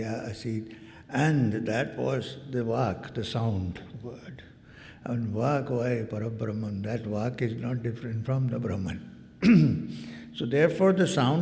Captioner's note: clears throat